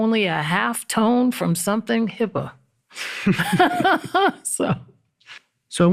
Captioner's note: laughs